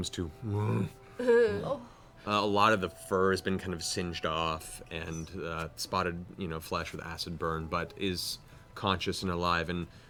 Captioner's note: bear grunt